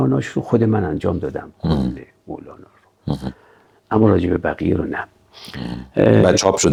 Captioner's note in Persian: صدای خرناس